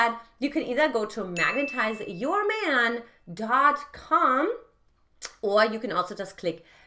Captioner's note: bell chimes